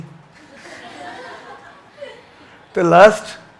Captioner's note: audience chuckles